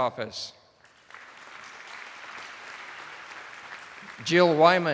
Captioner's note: attendees applauding